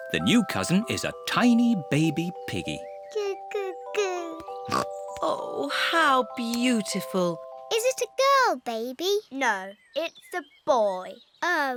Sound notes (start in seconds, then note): 4.6 snorts